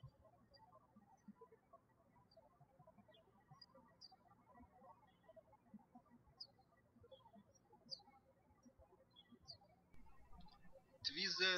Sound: birds chirping

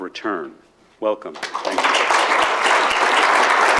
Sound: applause

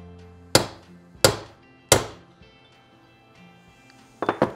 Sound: hammer tapping

